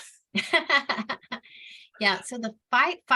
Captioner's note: laughs